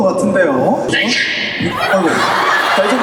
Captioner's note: achoo!